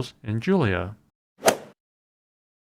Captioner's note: swoosh